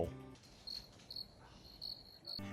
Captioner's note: crickets chirping